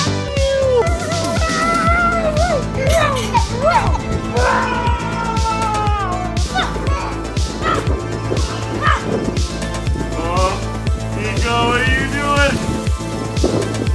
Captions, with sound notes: I got you! (screaming) Ahhh! What are you doing?